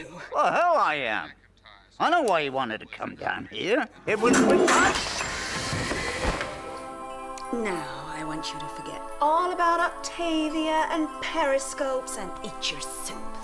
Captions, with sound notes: - Like hell I am, I know why you wanted to come down here. (flushes) - Now, I want you to forget all about Octavia and periscopes and eat your soup.